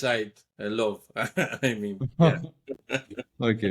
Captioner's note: laugh